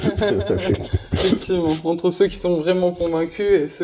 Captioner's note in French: rires